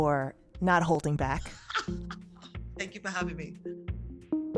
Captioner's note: laughter